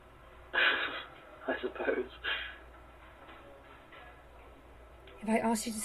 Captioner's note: laughing